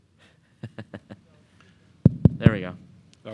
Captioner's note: laughing